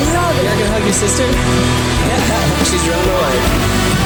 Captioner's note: laughing